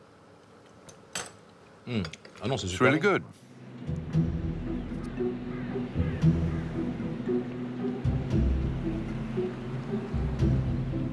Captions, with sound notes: It's really good. (gentle music) (birds chirping)